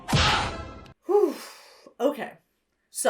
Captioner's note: fist smacks; sighs